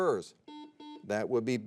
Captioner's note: buzzer beeps